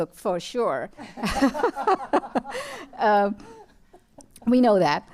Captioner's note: laughter